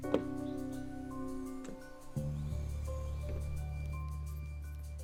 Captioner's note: trunk whooshing